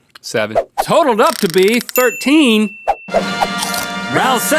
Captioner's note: bell rings